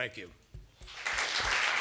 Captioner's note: applause